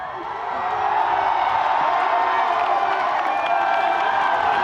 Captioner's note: audience applauding